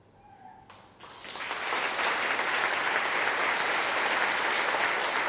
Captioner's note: applause